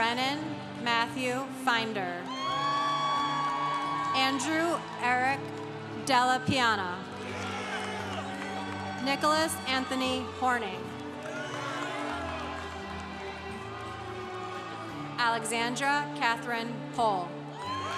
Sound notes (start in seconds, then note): 2.2 congregation cheering; 7.4 congregation cheering; 11.3 congregation cheering; 17.5 congregation cheering